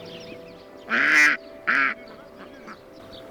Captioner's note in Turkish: Ördek Sesi